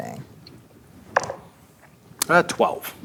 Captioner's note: dice rolling